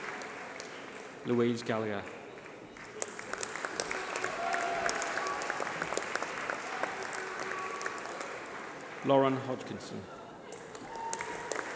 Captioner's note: applause